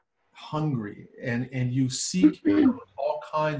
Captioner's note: woman clearing throat